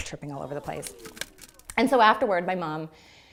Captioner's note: cracking ice